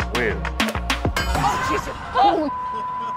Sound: metal clanging

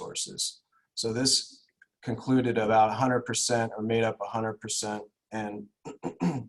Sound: clears throat

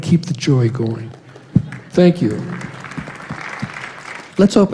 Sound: applause

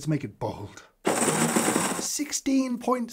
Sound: grinder whirring

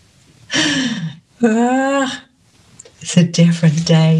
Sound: laughs

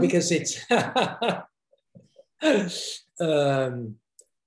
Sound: laughs

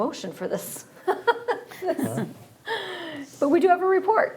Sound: laughing

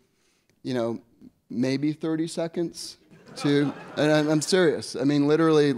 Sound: audience laughs

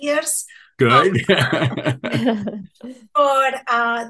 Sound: all laughing

